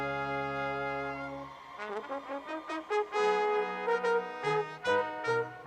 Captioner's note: audience cheers